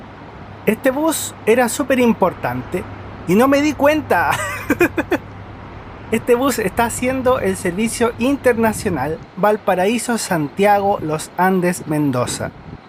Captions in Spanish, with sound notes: este bus era súper importante y no me di cuenta (risas) este bus está haciendo el servicio internacional Valparaíso - Santiago - Los Andes - Mendoza